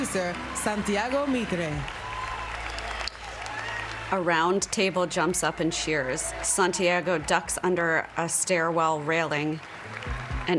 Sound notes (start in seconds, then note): 0.7 applause